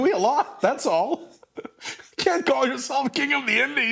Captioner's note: laugh